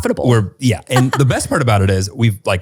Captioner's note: laughs